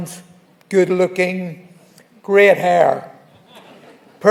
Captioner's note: laughing